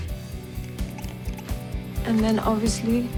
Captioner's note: rubbing whiteboard